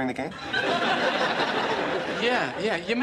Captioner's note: laughter